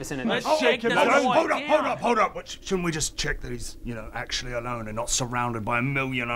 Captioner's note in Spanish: none